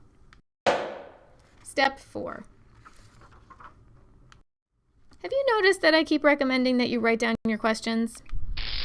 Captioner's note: loud footstep